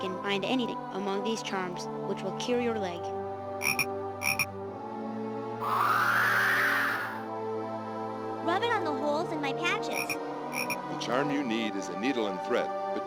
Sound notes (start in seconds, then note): 5.3 magic tinkling